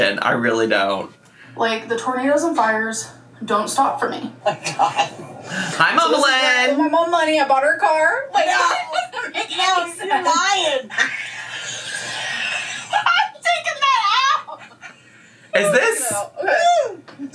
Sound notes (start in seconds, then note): 12.5 laughing